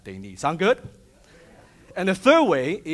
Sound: audience chattering

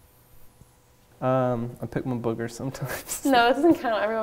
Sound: laughing

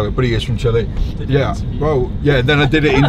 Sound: laughs

